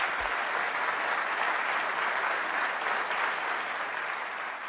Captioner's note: audience clapping